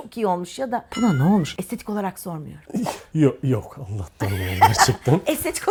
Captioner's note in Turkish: kahkaha